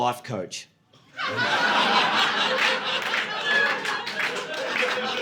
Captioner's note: audience laughing